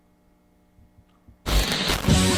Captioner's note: static